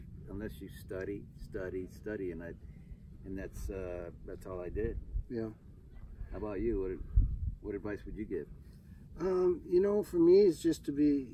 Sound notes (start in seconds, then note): none